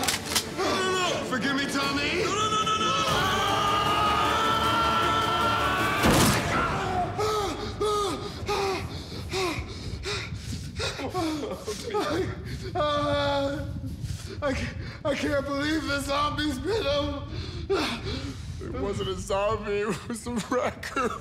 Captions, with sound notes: (gun cocks) - No, no, no, no! - Forgive me Tommy! - No, no, no, no! (man screams) (gun fires) (man pants and gasps) - (sobs softly) I can't believe the zombies bit him! - It wasn't a zombie (sobs), it was a raccoon!